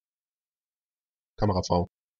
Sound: fast Pronunciation

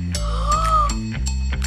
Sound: gasps

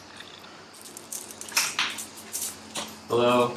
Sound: bead curtain clattering

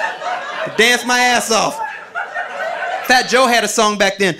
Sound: audience laughing

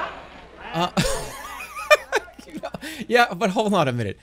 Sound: laughs

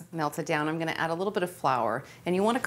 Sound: none

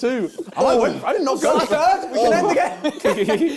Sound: crowd mumbling

